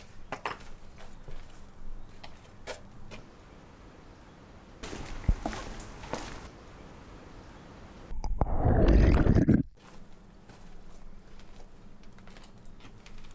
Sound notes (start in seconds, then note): 4.8 foot steps